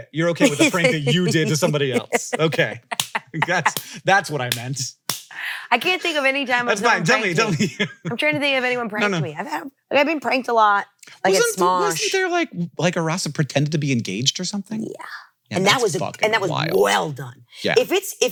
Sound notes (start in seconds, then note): 0.4 laughs